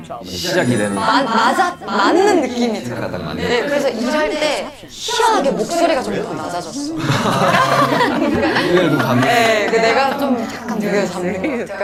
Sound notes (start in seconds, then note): 6.8 hahaha